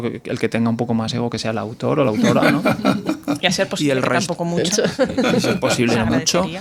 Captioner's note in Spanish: risas